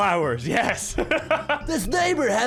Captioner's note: laughs